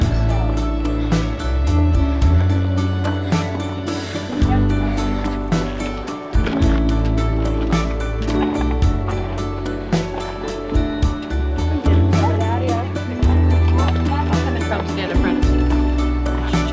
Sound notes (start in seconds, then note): 0.0 inspirational music; 6.4 footsteps rustling; 11.4 group chattering; 11.4 inspirational music